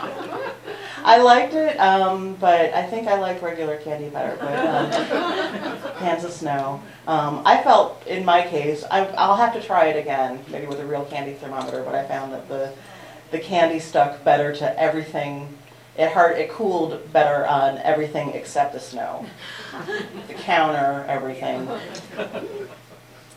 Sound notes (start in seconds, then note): 0.0 laughter; 4.4 laughter